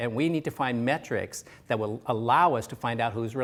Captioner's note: none